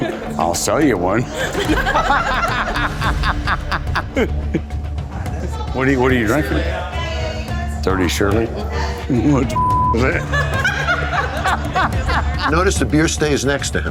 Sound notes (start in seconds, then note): 0.0 laughter; 9.9 laughter